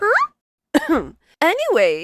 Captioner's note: ahem